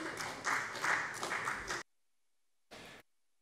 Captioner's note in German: Beifall bei der FDP